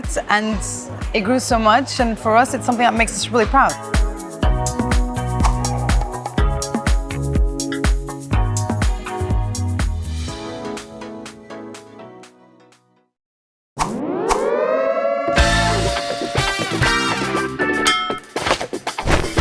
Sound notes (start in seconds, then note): 13.8 siren wails; 15.3 upbeat funky music